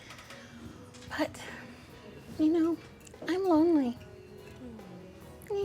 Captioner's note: sighs